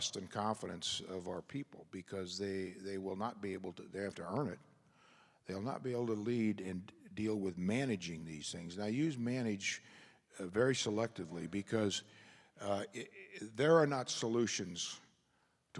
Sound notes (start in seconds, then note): none